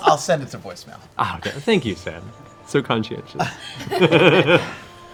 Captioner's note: laughs